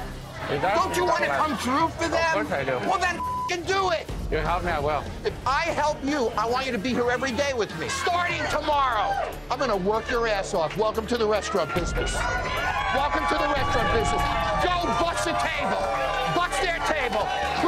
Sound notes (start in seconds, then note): 3.1 beep; 12.5 crowd cheering